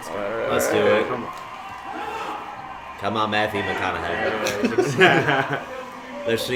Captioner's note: chuckling